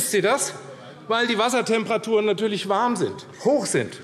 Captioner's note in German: none